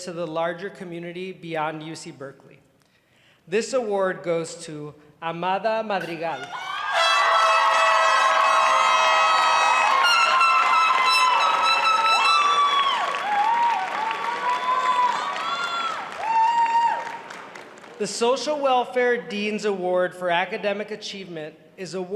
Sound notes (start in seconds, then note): 6.9 applause